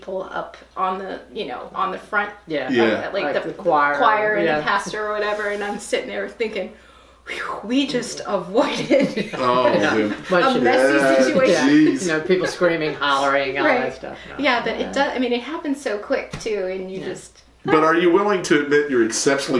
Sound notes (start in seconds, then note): 8.7 whew